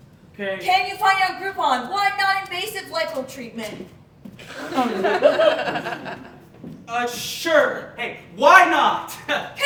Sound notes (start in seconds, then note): 4.4 audience laughing